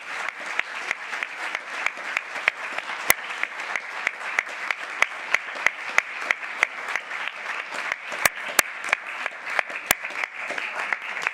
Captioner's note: applause